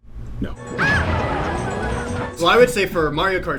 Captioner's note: Toad screaming in pain